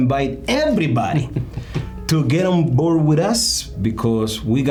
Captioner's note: chuckling